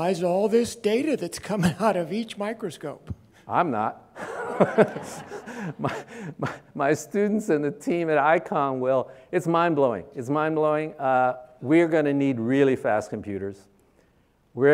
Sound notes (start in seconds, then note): 4.2 audience laughing; 4.2 laughs